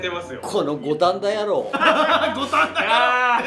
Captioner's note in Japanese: 大爆笑